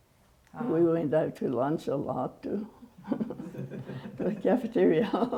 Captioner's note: laughs